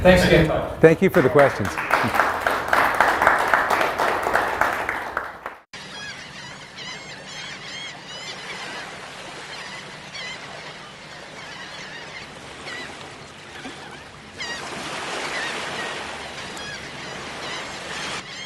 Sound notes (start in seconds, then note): 0.9 applause; 5.8 seagulls Cawing